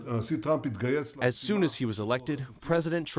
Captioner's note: through translator